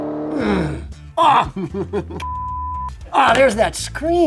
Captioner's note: laughs